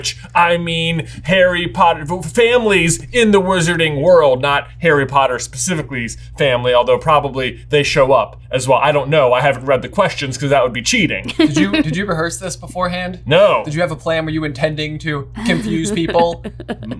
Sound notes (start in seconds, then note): 11.2 laughing amusingly